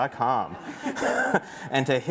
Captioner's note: laughter